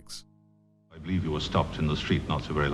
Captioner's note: voiceover